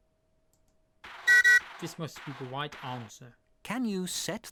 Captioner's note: choo-choo